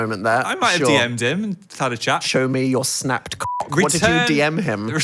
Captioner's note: beep